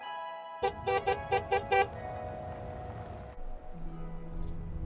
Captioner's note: gentle music; horn beeping; reflective music